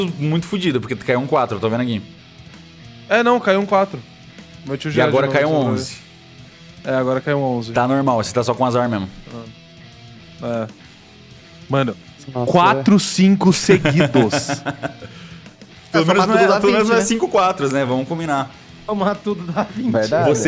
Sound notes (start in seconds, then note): 13.6 laughs; 19.1 laughing